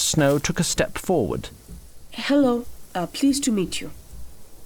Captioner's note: accented